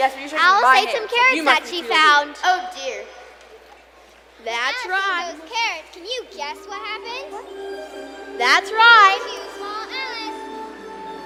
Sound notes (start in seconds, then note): none